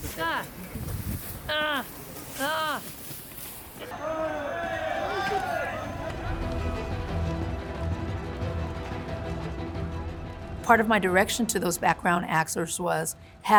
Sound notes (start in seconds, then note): 3.8 crowd yelling; 5.8 dramatic music